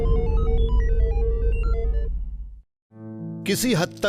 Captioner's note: beeping